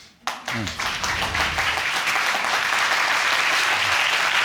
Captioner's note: audience clapping